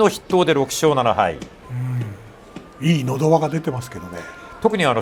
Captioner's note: throat push